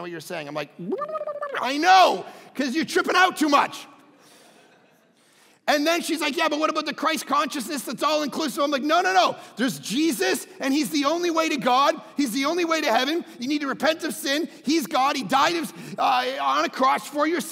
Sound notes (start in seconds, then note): 0.8 gabbling; 4.3 crowd laughing